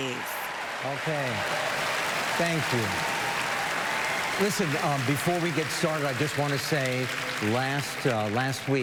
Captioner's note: applause